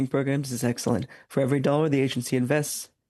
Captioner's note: speaking French